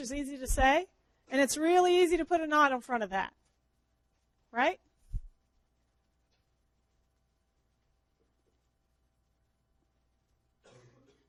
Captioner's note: long pause